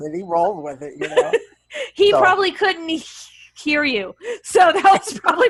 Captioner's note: laughs; laughing